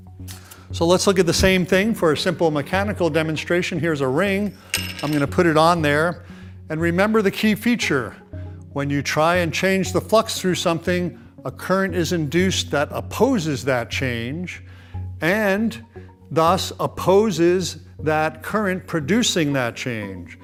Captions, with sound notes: So let's look at the same thing for a simple mechanical demonstration. Here's a ring. (ring clangs) I'm going to put it on there, and remember the key feature: when you try and change the flux through something, a current is induced that opposes that change and thus opposes that current producing that change.